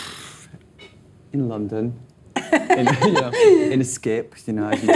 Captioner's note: laughing